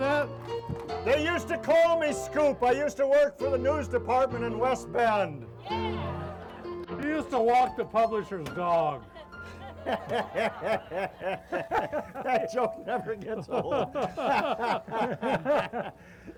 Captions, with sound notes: - You want me to hold that? - They used to call me Scoop, I used to work for the news department in West Bend. (crowd cheers) - He used to walk the publisher's dog. (laughing) - That joke never gets old. (laughing)